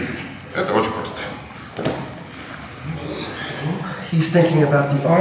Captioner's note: speaking in a foreign language